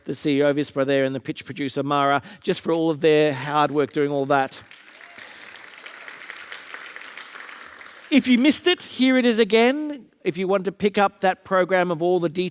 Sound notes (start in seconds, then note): 3.6 audience applauding